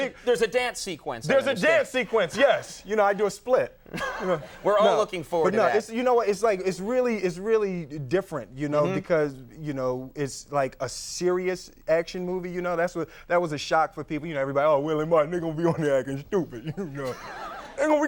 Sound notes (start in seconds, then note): 3.9 Conan laughing